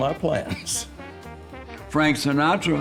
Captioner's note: chuckling